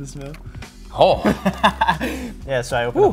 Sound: laughs

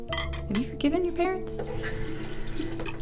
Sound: water sloshing

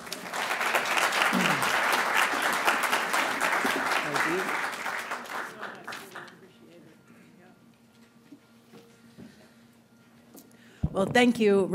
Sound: applause

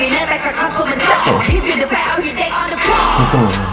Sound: laughing

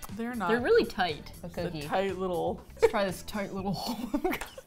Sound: both laugh

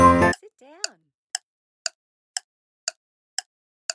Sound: timer

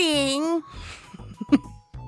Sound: chuckles

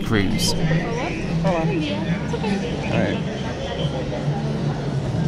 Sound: background chatter

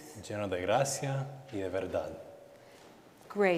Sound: speaking in Spanish

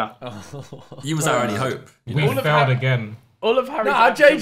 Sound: all laughing

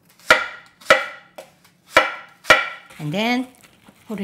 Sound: chopping

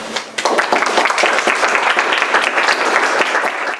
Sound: applause

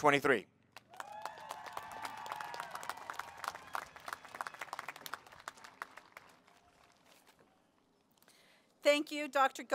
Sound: applause

